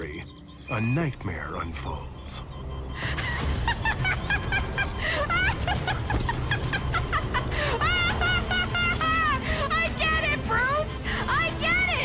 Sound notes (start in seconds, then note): 2.5 monitors beeping rapidly; 3.0 frenzied laughter